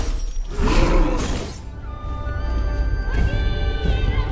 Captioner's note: gorilla grunting; pensive music